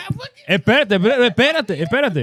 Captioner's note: speaking Foreign Language